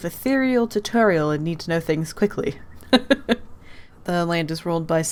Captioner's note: laughs